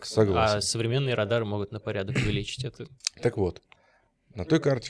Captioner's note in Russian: откашливается